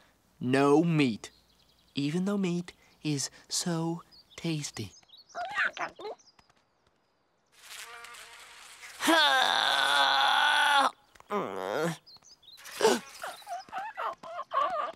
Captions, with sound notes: No meat. Even though meat is so tasty. [chirping] [buzzing] [groaning] [gasping] [chirping]